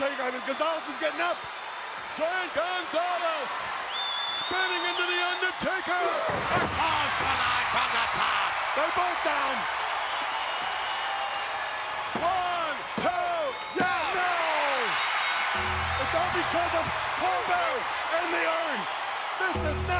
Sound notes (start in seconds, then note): 6.5 crowd cheering; 14.4 bell ringing